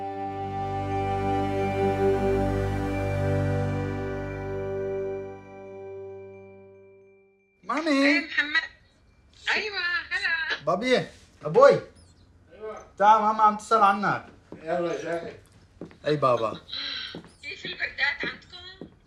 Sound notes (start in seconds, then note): 0.0 solemn music; 7.7 speaking foreign language; 8.6 mom foreign language; 11.1 speaking foreign language; 11.9 father foreign language; 14.9 mama speaking foreign language